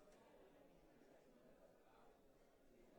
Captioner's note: none